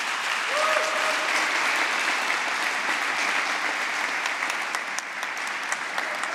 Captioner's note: applause